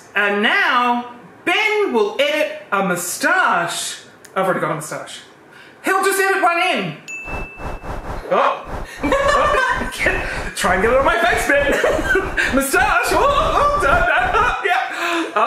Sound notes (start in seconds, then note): 7.2 bell chimes; 9.1 female crew laughing